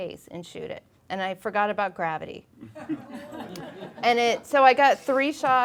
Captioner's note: laughing